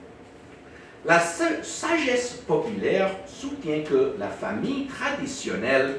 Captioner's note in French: hésitations